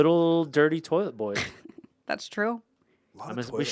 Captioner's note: laughs